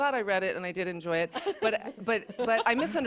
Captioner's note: laughter